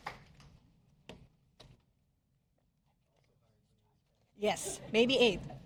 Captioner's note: applause